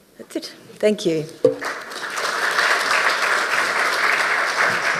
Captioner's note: audience applauding